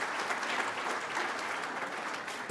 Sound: applause

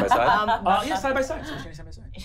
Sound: laughing

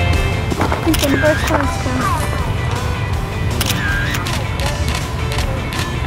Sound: camera shutter clicking

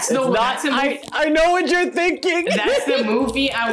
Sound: laughs

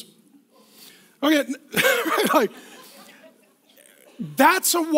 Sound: laughs

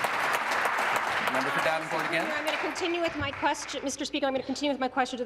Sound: applause

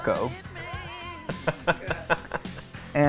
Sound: Noah laughs

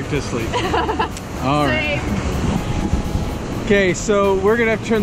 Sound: laugh

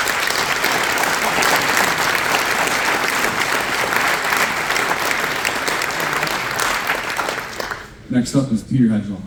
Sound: applause

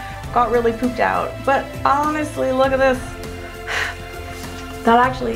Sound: blows

